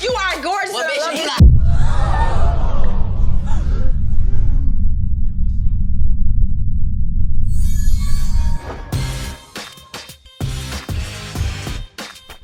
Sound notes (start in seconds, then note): 0.7 laughs; 3.2 gasps & confusion